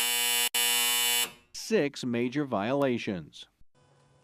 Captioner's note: buzzer; buzzer